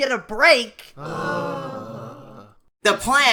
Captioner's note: The rest of Team 5 groans